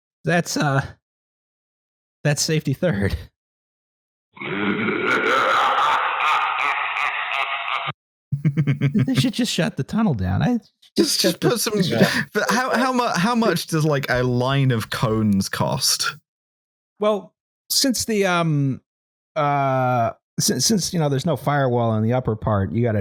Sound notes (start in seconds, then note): 4.4 monstrous laughter; 8.3 chuckles